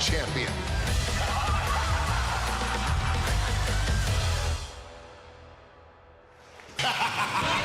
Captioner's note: laughter